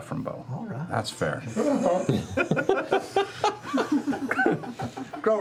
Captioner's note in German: Gelächter